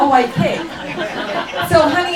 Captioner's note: laughing